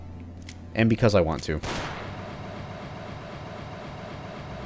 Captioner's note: 45 fire, long flaming/hissing noise... then BOOM